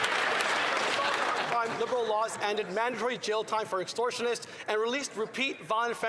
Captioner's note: some Applause